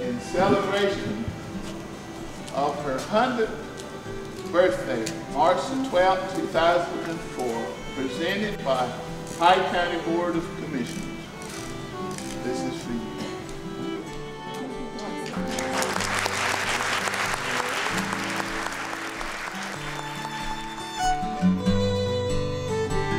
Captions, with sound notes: In celebration of her 100th birthday, March the 12th 2004 Presented by Hyde County Board of Commissioners This is for you. [applause]